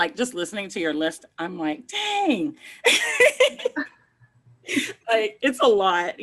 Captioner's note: laughs